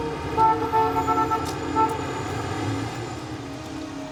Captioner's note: horn honking